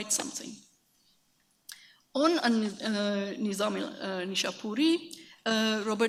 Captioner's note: speaks in a foreign language